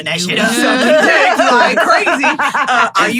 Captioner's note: everyone laughing